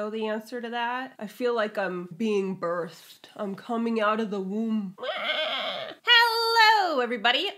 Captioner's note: screeches